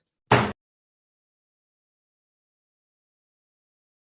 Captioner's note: gavel bangs